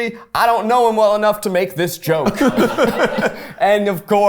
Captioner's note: everyone laughs